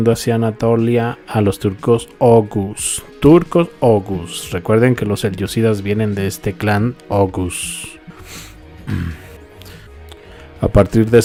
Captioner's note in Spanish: resoplido